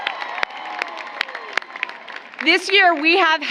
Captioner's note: applause